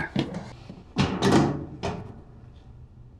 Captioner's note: opens container